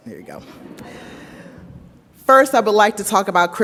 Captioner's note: audience laughs